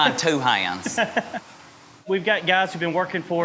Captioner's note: people laughing